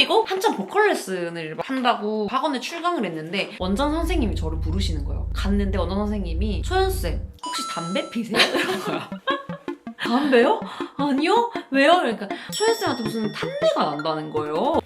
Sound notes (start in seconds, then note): 8.3 laughter